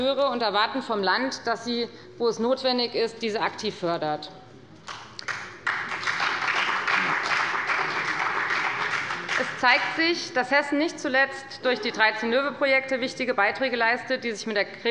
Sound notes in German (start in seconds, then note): 4.8 Beifall bei der FDP und bei Abgeordneten der SPD